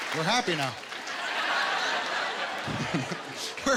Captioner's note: laughter